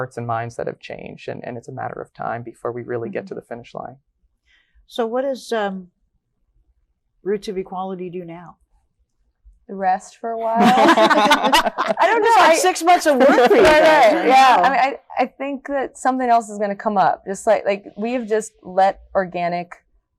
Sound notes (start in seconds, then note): 10.4 all laughing